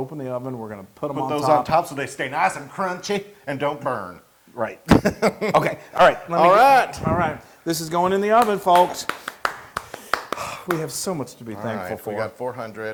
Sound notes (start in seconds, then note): 4.8 laugh; 8.3 applause